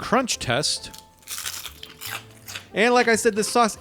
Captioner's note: nugget crunches